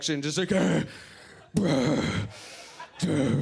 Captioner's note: pants heavily